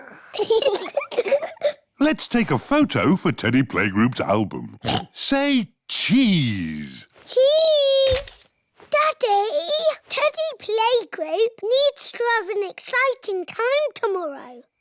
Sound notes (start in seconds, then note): 0.1 both giggle; 4.8 oinks